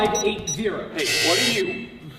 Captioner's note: incorrect passcode buzz